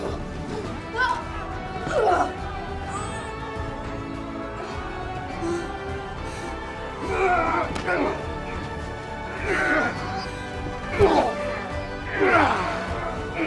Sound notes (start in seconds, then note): 6.8 men grunting